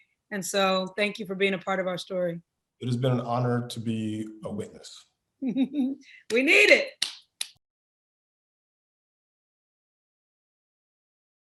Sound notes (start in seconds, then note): 5.5 laughing; 7.0 clapping